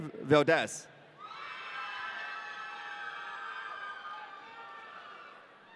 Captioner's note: audience cheering